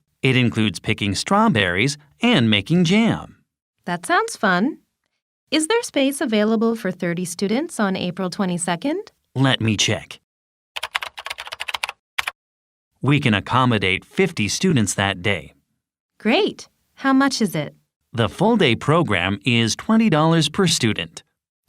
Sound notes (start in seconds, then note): 10.8 typing sound